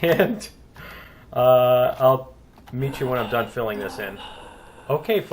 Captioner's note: laughs; player gasping